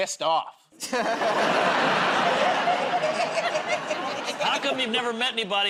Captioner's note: laughter